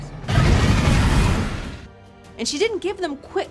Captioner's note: flames bursting